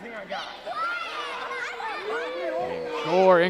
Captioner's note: crowd jeering